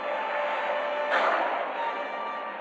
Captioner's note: gunshot